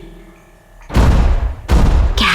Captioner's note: coffin shaking